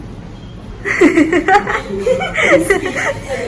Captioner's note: laughing